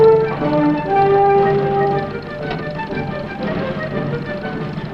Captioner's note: brakes squeal